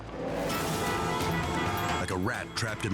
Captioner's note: cars honking